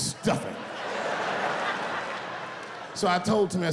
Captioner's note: laughing